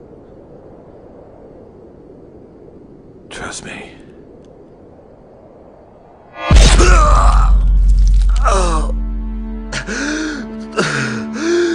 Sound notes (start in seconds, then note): 6.4 thudding blow; 8.2 groaning in pain